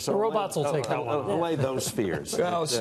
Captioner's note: laughter